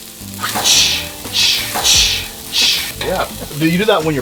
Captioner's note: making sizzling sounds